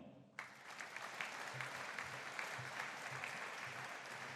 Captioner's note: audience applauding